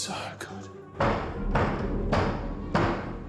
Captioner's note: heavy knock on door